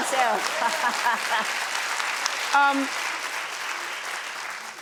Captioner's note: audience applauds; laughs